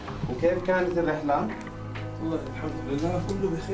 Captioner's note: speaking foreign language